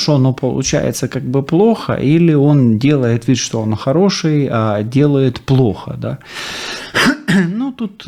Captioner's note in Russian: фыркает; откашливается